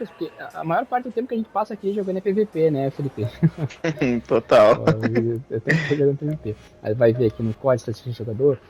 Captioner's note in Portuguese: risadas